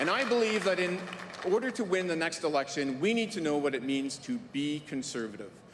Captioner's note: cheering & Applause